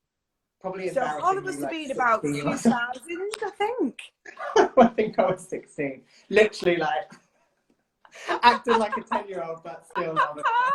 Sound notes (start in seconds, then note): 4.3 laughs; 8.2 laughs